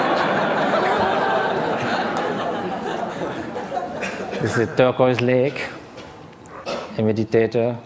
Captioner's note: laughter